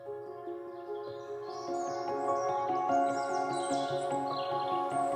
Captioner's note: gentle piano music; birds chirping